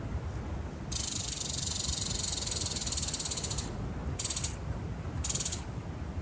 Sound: sound of a squirrel chirping

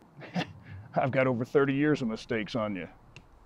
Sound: laughs

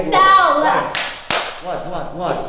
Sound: emma claps her hands

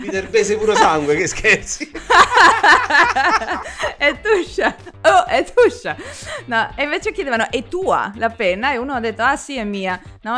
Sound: laughs

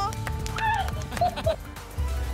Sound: shrieks

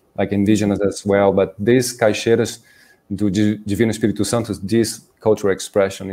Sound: speaking in Portuguese

